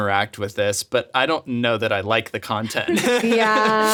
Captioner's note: laughs